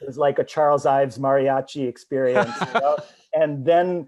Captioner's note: laughs